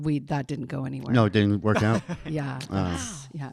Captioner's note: laughing